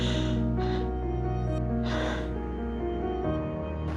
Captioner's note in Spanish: Sollozos